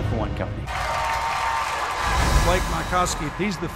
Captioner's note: clapping and cheering